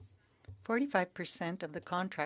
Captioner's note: speaking French